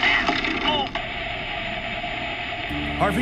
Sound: crash; static crackling

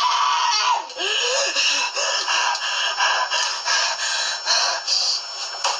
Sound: breaths heavy with rage

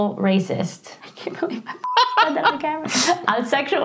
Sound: beep

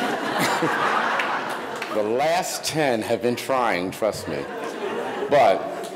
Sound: audience laughing; laughs

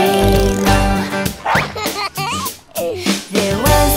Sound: dog giggles; dog barks

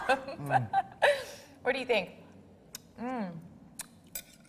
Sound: laughs

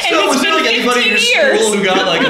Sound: laughter

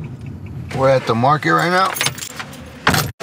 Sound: keys jangling; car door clicks shut

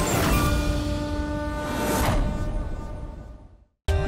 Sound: conch blowing

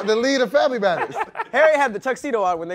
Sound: laughing

